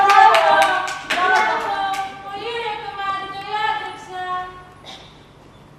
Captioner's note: Φωνή από μέσα